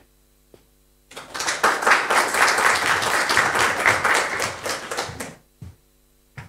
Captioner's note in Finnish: Aplodeja